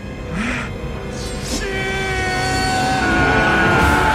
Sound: grunts; yells; soldiers shouting

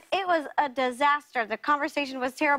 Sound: none

